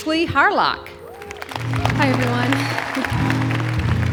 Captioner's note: audience clapping; gentle guitar music